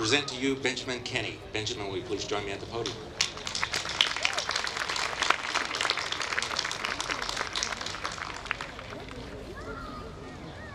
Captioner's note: applause